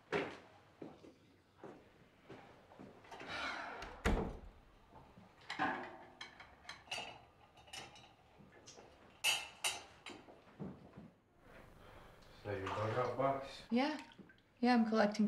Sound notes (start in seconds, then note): 2.8 sighs